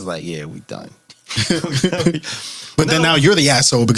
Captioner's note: laughing